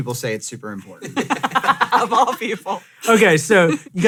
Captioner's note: laughs